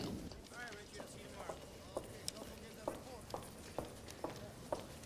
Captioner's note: heels clicking